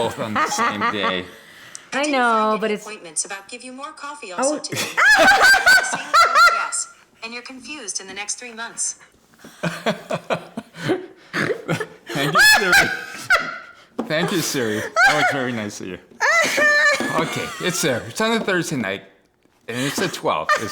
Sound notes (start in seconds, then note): 4.7 both laugh; 9.4 both continue laughing; 16.2 laughs